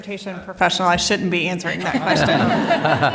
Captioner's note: laughter